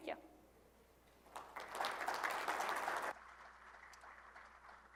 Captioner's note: applause